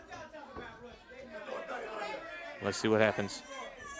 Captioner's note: crowd chatter